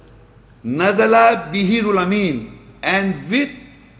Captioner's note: Arabic